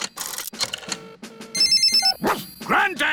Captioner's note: line rings; barks